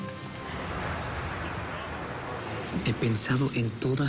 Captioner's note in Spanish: Ruidos del tráfico